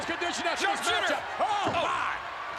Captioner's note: Jerry mumbling; spectators cheering